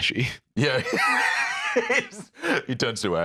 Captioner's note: laughs